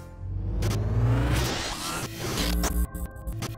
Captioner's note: glitch sound